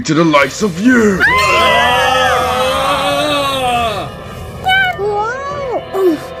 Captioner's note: all yell; Komasan stutters